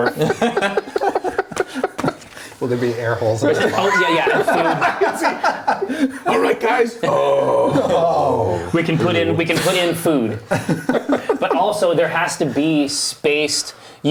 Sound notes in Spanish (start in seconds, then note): 0.0 risas; 7.0 gruñido